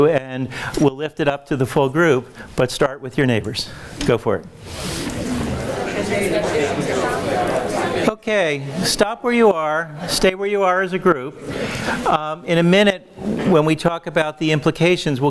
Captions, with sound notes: and we'll lift it up to the full group. But start with your neighbors. Go for it. (audience murmurs) Okay, stop where you are. Stay where you are as a group. In a minute, when we talk about the implications,